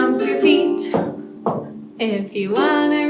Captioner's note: stomp, stomp